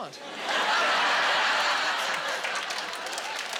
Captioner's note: laughing